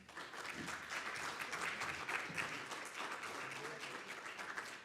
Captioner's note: audience applauding